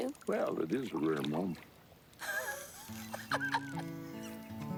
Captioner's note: laughing